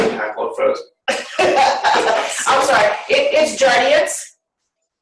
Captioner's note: laughter